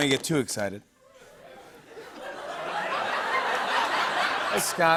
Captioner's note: laughter